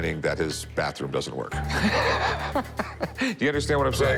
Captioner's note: laughs